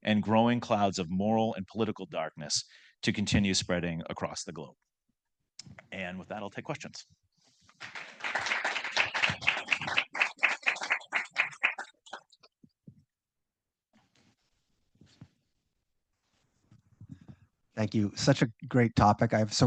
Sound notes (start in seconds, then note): 7.7 audience clapping